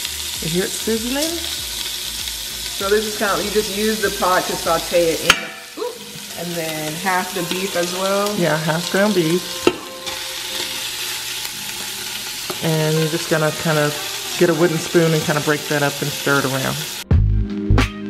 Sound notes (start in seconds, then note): 10.9 meat sizzling in pot